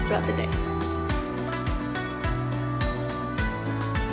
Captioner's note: Spanish